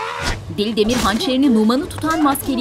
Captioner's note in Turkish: Bağırma sesi